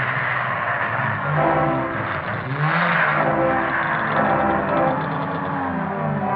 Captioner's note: bell